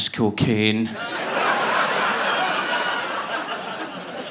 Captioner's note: audience laughing